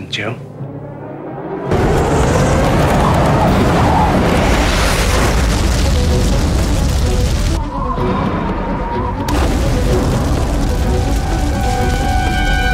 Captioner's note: re-entry noises